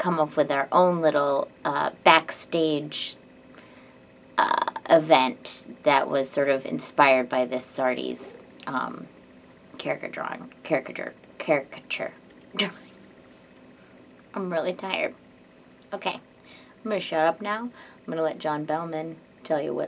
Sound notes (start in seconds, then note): none